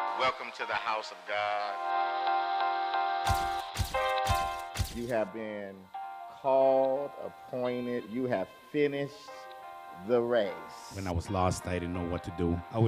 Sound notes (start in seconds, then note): 2.2 light music; 3.3 camera flashing